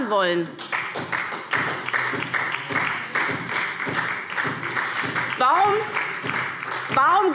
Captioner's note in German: Beifall SPD